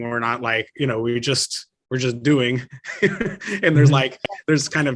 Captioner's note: laughs